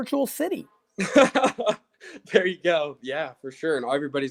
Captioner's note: laughs